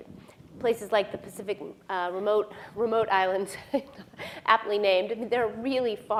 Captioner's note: laughs